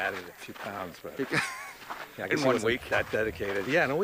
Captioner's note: laughs